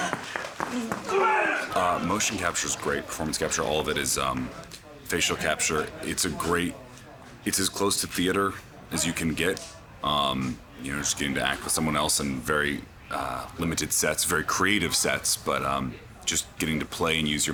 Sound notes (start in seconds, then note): 1.7 in English